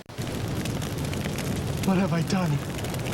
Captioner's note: flames crackling